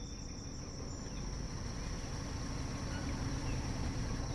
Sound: engine roaring

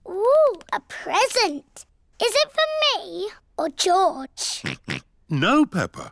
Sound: oinks

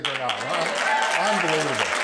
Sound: applause

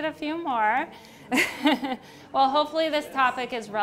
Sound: laughs

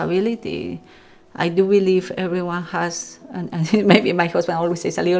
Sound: laughs

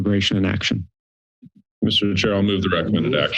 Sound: silence

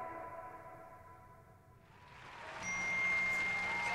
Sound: crowd cheering

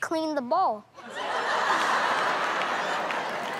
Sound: laughter and applause

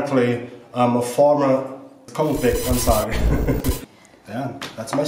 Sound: laughing

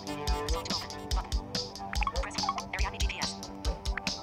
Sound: GPS talking

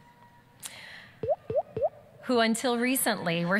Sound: sound effect; boop boop boop

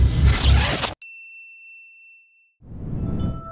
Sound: bell ringing

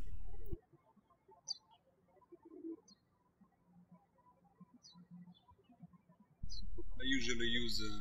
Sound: birds chirping

